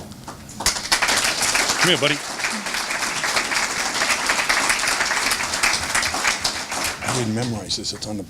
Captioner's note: applause